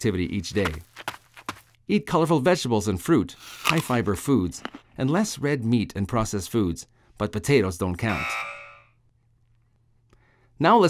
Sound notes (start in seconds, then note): 0.3 sound of person running; 3.4 sound of person taking a bite and chewing food; 8.1 sound of a buzzer striking through image of french fries and chips